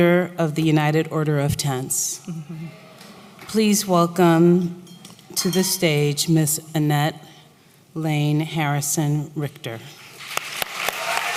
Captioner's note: applause